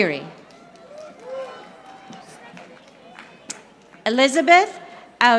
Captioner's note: audience applauding